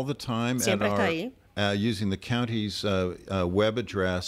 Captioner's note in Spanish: Hablando ingl\s